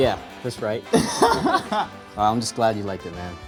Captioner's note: laughs